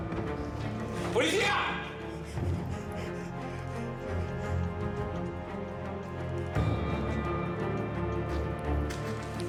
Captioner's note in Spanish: suspiros